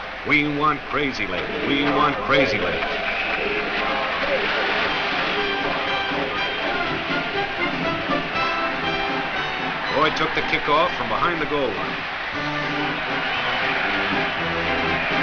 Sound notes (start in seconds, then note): 2.8 crowd chants "We want Crazylegs!"; 12.5 crowd cheers